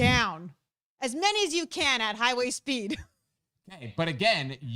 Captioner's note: chuckles